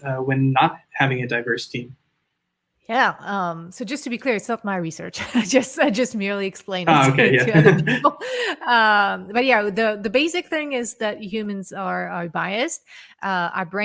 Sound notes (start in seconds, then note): 6.8 chuckles